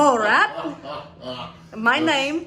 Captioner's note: laughing